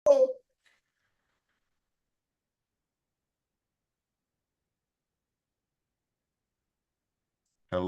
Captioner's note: silence